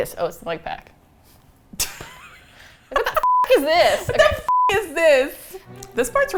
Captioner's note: teasing; laughs